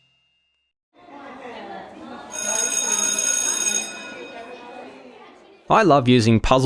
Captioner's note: bell ringing over children chattering